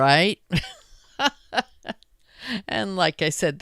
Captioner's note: chuckles